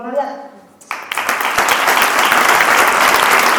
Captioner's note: applause